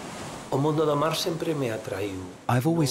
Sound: he speaks Spanish

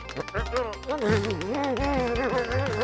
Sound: grumbling

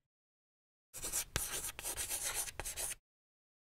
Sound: chalk scratching

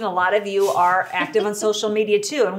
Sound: laughing

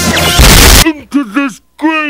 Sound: sounds like a rocket

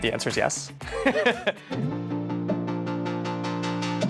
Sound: laughing

